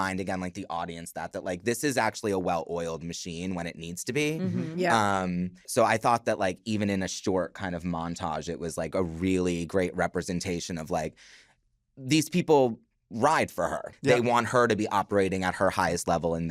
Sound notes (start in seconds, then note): 4.4 all agreeing